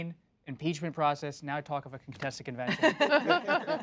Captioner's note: laughter